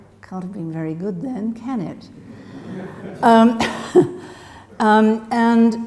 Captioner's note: laughter from audience